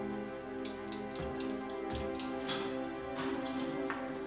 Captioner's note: footsteps